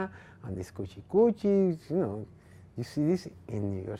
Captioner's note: speaking foreign language